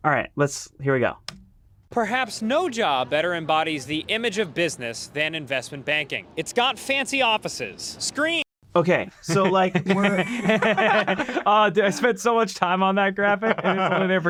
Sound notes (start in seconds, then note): 9.2 group laughing